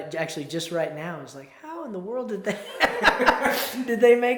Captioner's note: laughs